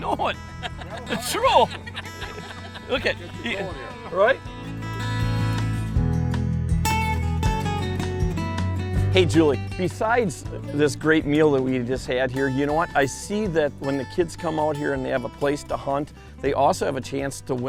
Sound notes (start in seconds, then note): 0.0 laughter